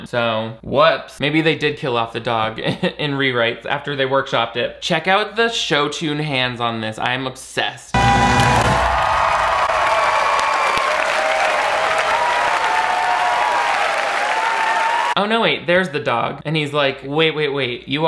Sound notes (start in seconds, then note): 7.9 audience applauding